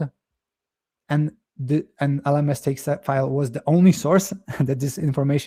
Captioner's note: chuckles